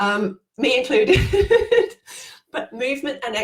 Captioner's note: laughing